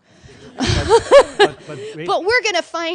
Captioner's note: laughs